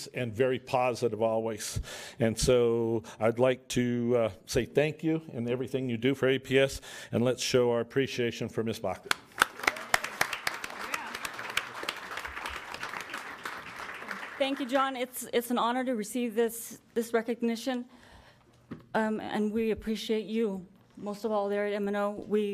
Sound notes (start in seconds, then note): 9.0 audience clapping